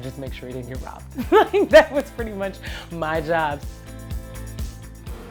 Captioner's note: laughs